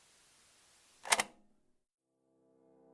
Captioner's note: click